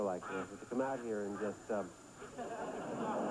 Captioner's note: quack quauack